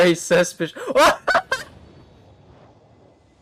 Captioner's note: laughing